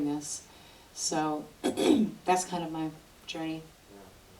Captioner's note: clears throat